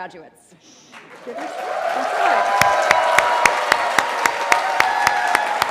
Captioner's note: cheering